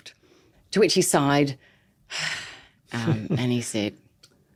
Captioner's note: sighs